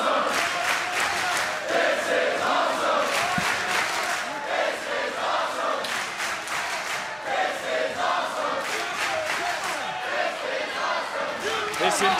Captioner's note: crowd chants "this is awesome"